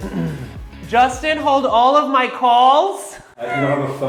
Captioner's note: clears throat